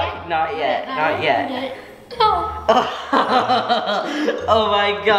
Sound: laughs

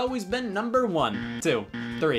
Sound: game buzzer

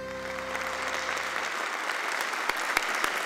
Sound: applauding

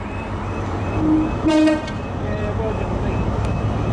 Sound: HST tones twice

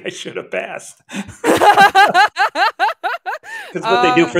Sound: all laughing

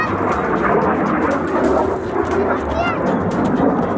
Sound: plane roars overhead

